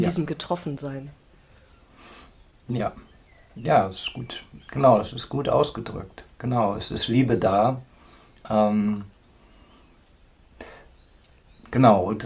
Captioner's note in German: schnauben